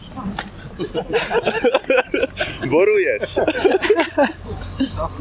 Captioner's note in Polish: śmiech